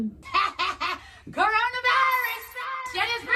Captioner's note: laughing evilly